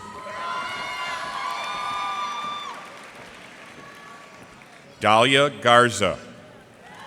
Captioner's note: cheers and applause